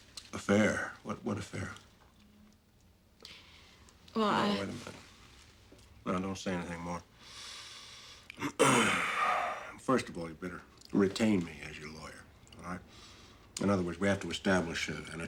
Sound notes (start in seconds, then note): 8.3 exhales